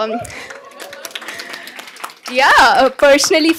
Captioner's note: cheers, applause